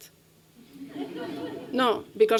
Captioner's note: laughter